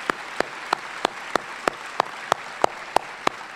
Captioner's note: applause